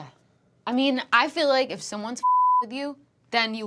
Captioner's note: beep